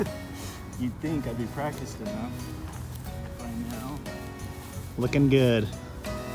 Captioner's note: laughing